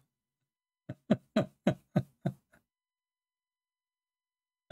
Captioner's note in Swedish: Skratt